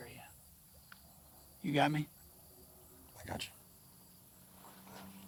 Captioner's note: footsteps shuffling